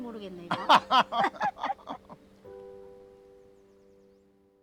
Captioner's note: both laughing